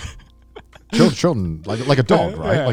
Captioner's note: laughing